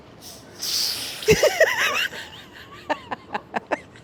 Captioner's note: laughs